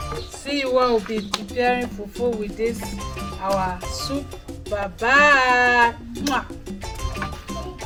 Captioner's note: kisses